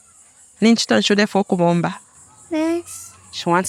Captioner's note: interpreter speaking in foreign language